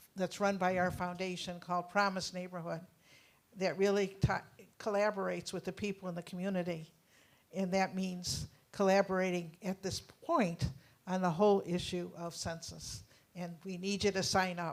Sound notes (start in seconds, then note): none